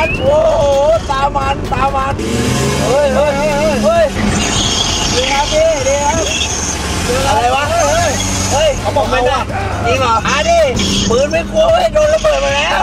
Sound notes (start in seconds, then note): 4.2 engine rumbling